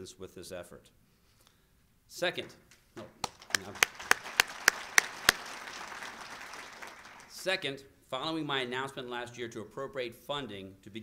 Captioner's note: applause